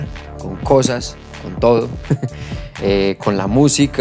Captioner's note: laughs